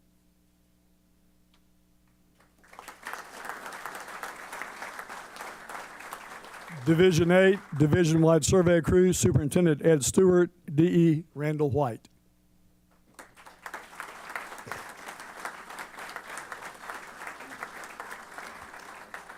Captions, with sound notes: [APPLAUSE] Division Eight, Division Wide Survey Crew, Superintendent Ed Stewart, DE Randall White. [APPLAUSE]